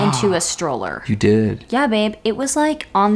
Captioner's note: gasping